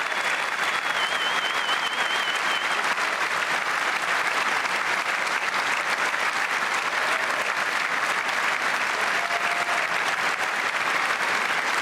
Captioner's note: cheers and applause